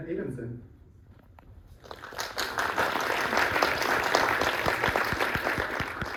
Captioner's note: applause